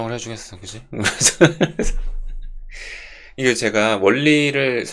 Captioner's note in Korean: 웃음